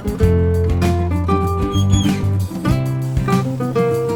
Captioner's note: green Dutch oven pot in a hot oven, closing oven door